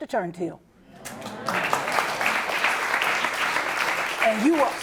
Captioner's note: applause